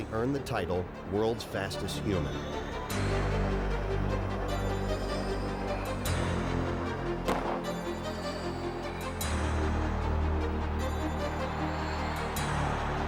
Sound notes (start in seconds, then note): 2.9 dramatic music; 7.2 gun firing; 8.5 dramatic music continues